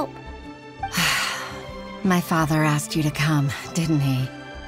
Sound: sigh

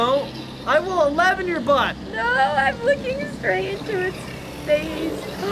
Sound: none

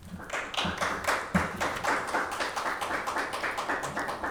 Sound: attendees applauding

